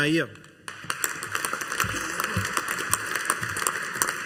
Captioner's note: audience applauding